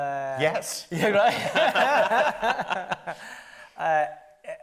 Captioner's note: laughs